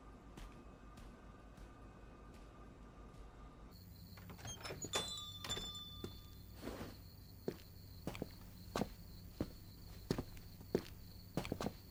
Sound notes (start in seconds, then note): 4.8 bell jingles